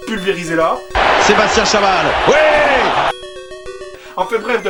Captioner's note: voiceover